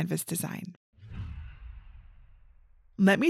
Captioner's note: image whooshes